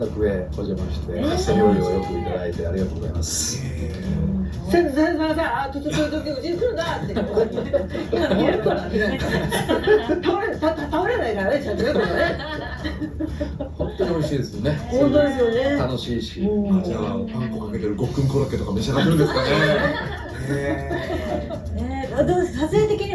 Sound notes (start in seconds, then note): 5.4 laughs; 19.0 laughs